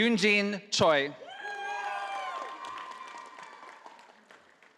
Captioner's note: audience applauding